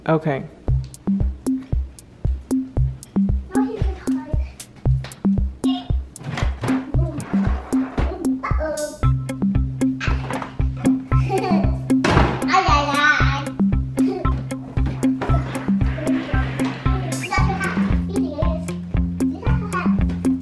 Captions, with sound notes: Okay. (lively music) - I'll get my car. Boom, uh oh. (giggles) (silly babbling)